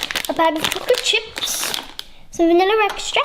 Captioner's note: packet rustles